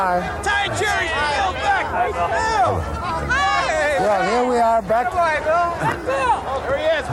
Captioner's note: many people yelling out